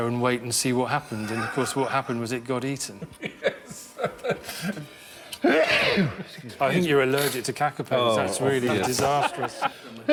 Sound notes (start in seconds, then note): 3.1 laughing; 5.4 sneezes